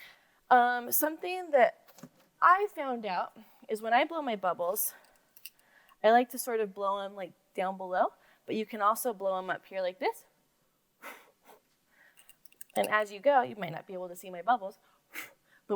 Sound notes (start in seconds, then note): none